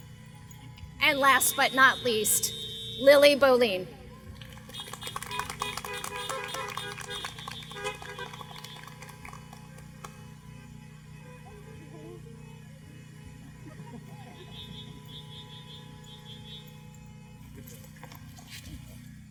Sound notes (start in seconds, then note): 4.4 applause